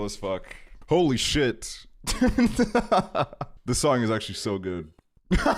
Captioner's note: laughs; laughing